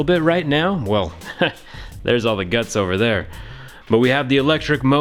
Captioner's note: laughs